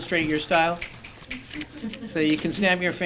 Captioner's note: snapping